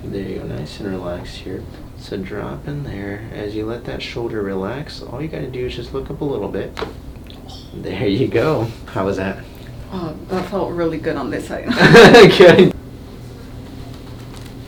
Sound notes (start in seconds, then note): 6.9 popping noise; 11.7 both laugh